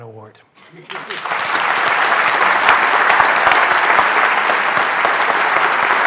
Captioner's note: applause